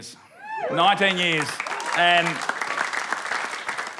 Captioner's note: whooping and applause